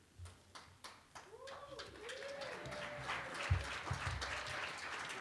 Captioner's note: applause